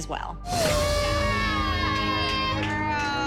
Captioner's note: cheering